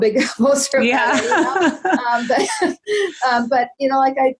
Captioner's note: laughing loudly